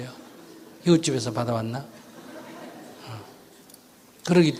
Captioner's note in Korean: 청중 웃음